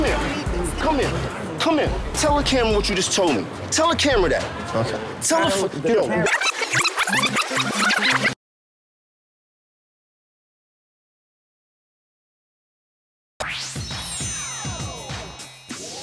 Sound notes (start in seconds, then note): 6.2 tape rewinding sounds; 13.4 upbeat music